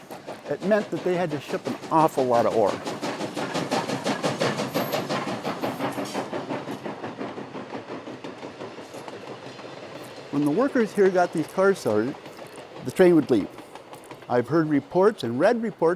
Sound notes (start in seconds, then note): 5.7 train sounds